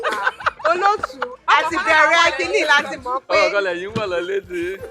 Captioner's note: laughs